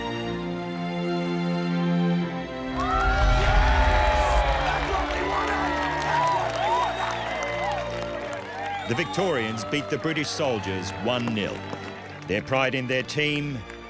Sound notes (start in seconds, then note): 2.7 crowd clapping and cheering